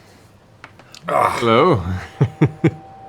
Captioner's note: chuckles